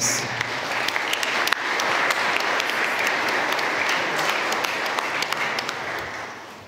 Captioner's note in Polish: oklaski